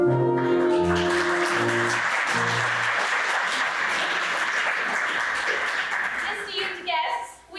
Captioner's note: applause